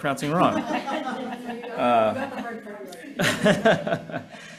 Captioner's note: people laughing